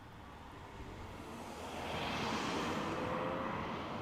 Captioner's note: car whooshing